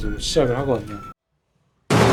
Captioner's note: gunshot one second later